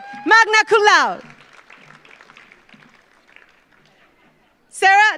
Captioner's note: audience applauds